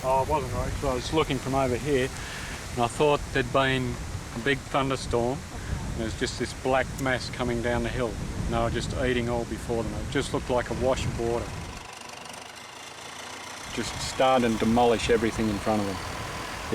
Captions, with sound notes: Oh, so I was looking from over here, and I thought there'd been a big thunderstorm. And it was just this black mass coming down the hill, you know, just eating all before them. It just looked like a rush of water. [tractor motor rumbling] Just starting to demolish everything in front of them.